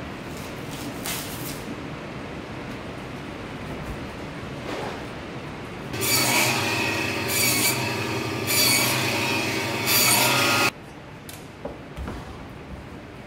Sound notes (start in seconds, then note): 5.9 sound of buzz saw cutting